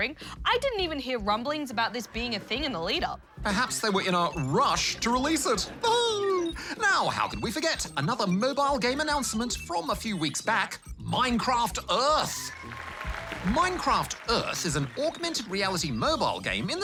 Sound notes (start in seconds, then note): 6.2 laughs